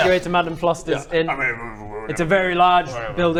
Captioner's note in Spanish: murmura